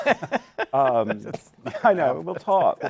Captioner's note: laughs